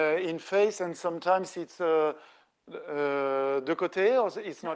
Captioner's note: speaking French